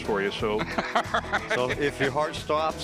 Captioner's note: Rick laughing